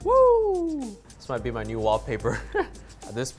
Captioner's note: laughing